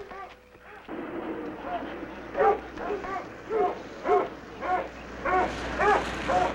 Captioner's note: car engines revving; dogs barking